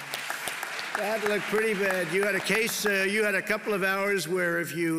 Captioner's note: applause